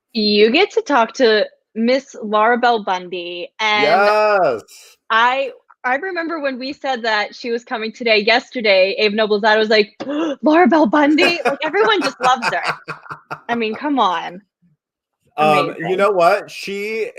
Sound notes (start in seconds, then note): 10.4 gasps